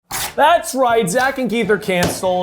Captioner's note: paper ripping